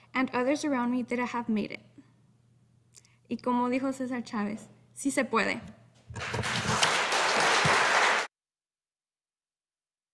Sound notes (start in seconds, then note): 3.5 speaking in Spanish; 6.1 audience applauding